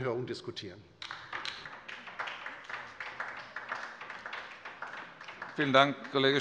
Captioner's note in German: Beifall bei der LINKEN